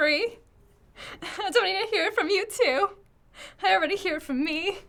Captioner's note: laughing